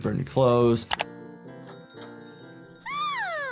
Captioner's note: click